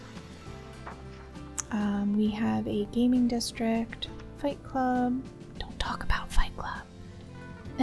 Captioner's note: whispers